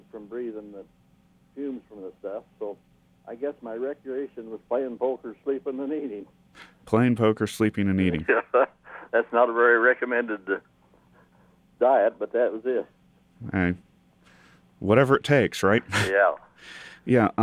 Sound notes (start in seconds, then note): 8.2 laughs